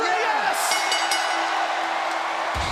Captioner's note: bell ringing